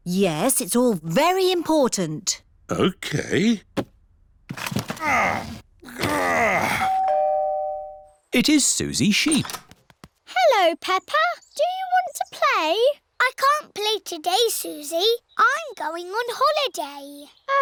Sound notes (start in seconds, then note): 4.8 groans; 6.8 doorbell rings